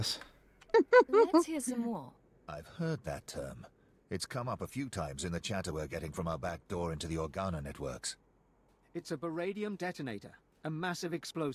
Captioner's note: laughter